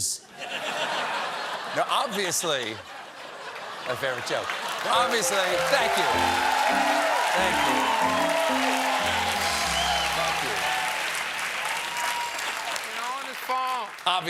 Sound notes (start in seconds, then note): 0.2 laughter; 6.3 cheers and applause